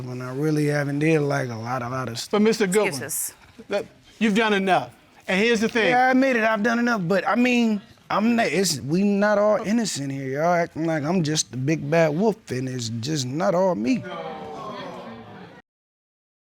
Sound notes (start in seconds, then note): 14.0 audience exclaims